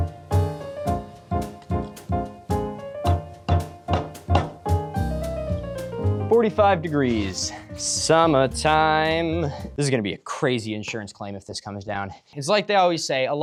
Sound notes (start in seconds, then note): 3.0 hammering